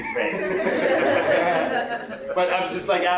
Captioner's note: laughter